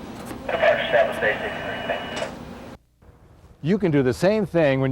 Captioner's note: faintly speaking; man through Radio